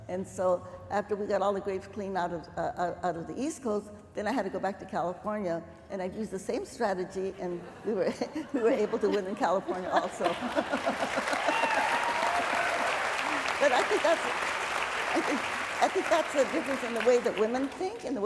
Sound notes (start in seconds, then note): 10.2 applause